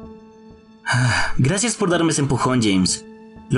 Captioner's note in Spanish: suspira